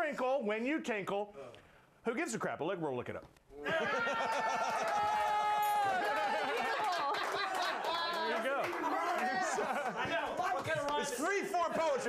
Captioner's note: applause